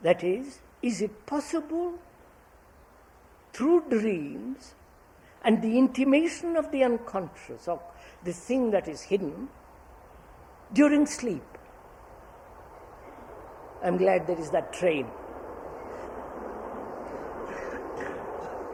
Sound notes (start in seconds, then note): 11.6 sound of train